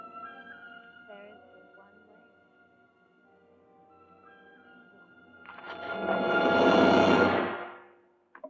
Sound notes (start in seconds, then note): 0.8 woman speaking, muffled